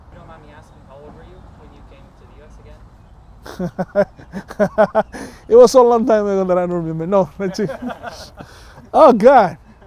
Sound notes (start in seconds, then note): 3.4 chuckles